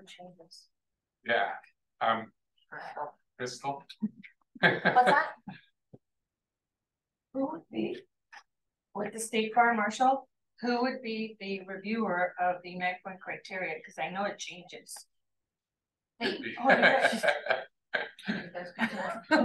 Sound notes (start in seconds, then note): 13.2 laughter